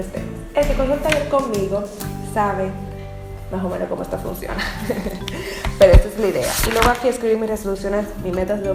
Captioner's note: giggles